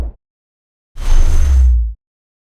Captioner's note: whooshing